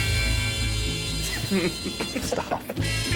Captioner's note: chuckles